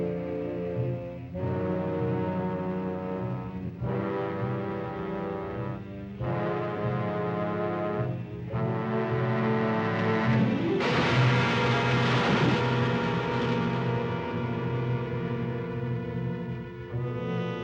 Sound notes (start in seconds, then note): 10.8 tree crashes down; 10.8 thunk; 13.5 tense music